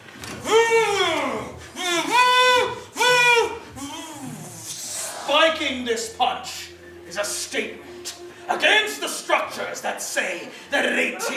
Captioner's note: human making trombone sounds which transition to spoken English